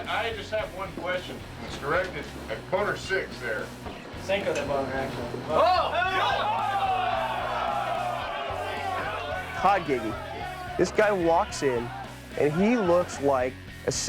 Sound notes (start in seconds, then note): 5.4 group clamoring